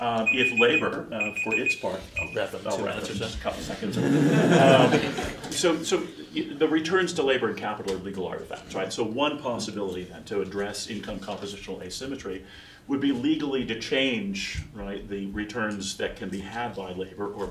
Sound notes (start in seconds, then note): 1.1 beeping; 3.8 laughter